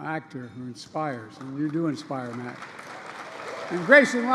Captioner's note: applause